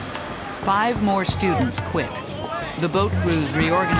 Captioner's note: voiceover